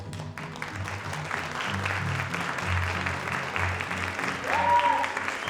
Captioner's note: audience applauding; audience cheering